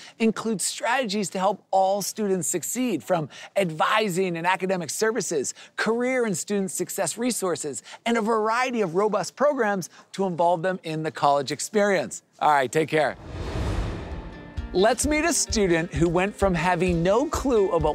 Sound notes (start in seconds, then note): 13.1 air whooshing